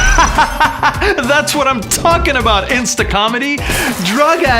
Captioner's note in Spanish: Risas